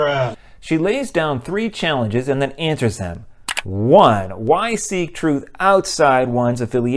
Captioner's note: mouse click